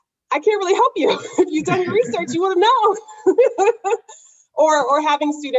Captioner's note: laughs